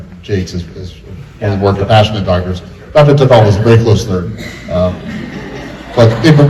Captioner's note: laughter